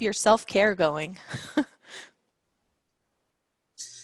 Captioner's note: laughs